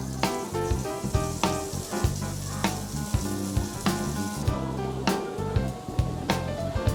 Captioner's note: light upbeat music; meat sizzling; light upbeat music